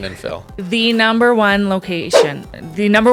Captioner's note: air whooshing